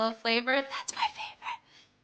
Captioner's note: whispers